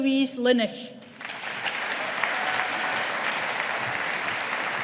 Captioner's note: audience applauding